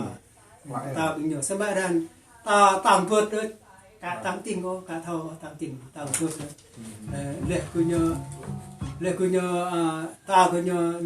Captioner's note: another set of gong